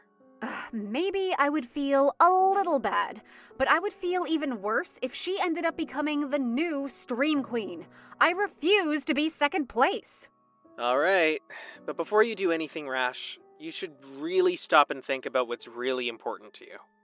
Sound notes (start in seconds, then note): 11.1 phone vo